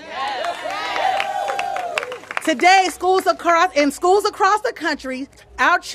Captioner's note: applause